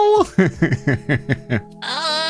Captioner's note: laughing